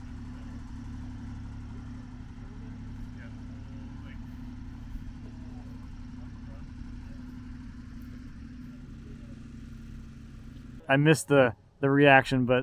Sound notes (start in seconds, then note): none